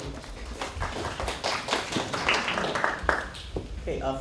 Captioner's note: applause